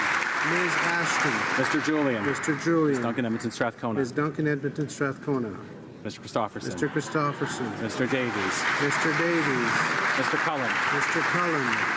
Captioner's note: some Applause